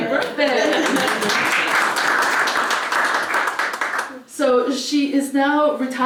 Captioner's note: applause